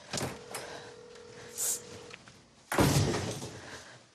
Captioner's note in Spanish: Suena la otra línea; Portazo